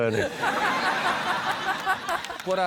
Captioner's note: laughter